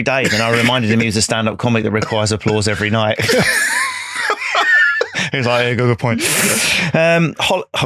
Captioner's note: laughing